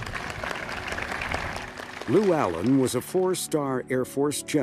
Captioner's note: people applauding